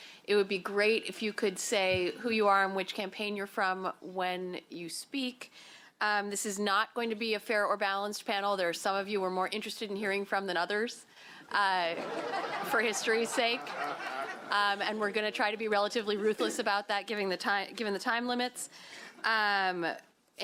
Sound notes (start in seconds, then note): 11.9 laughter